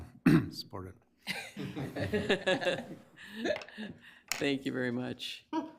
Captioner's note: everyone laughing